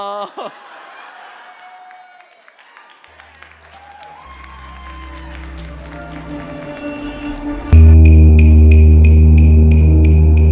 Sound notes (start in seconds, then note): 0.0 audience laughs; 2.9 audience applauds; 7.4 mysterious music